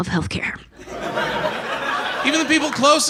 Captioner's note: audience laughs